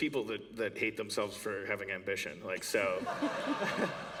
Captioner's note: laughter